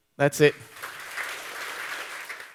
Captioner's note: audience Applause